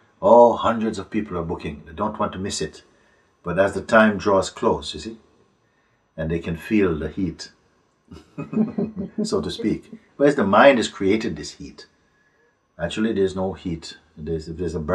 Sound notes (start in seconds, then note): 8.2 laughter